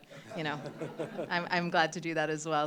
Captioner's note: laughter